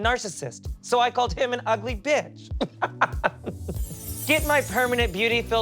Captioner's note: laughs